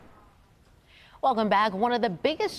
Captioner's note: logo swooshes